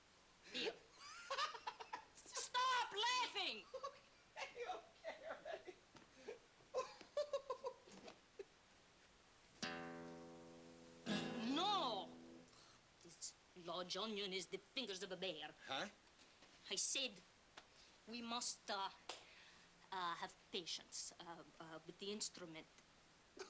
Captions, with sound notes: HERE. STOP LAUGHING! OKAY, OKAY ALREADY. ( continues laughing ) NO! THIS LARGE ONION HAS THE FINGERS OF A BEAR. HUH? I SAID, WE MUST, UH, HAVE PATIENCE WITH THE INSTRUMENT.